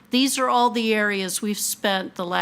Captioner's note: none